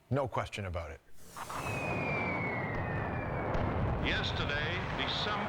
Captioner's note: bombs whistling